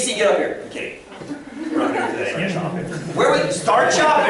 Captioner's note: laughter and inaudible comment